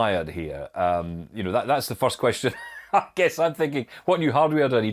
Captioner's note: chuckles